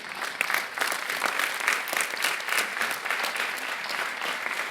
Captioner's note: audience applauding